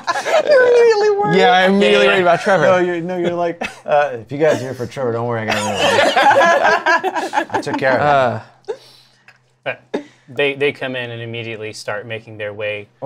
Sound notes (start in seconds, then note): 5.5 laughter